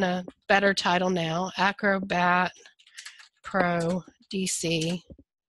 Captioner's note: fast typing